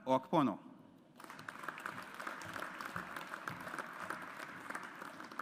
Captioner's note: audience applauds